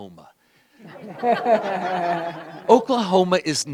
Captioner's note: laughter